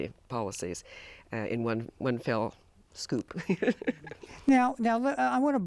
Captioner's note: laughs